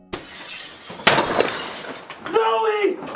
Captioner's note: window shatters